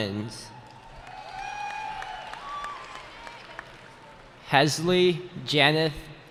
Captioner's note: cheering